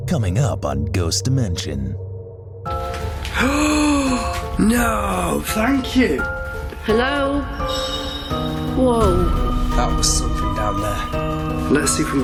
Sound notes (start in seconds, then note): 4.1 sharp gasp; 9.0 distant clang